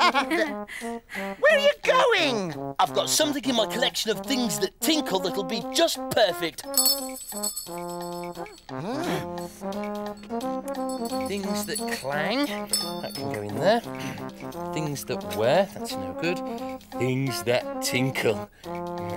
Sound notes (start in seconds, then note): 0.0 giggles; 6.7 rings bell